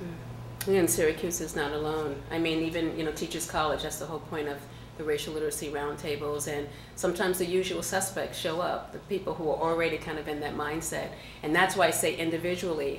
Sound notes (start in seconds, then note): none